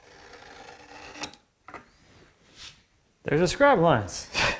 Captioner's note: knife on wood scraping; chuckling